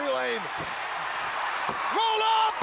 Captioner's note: crowd cheering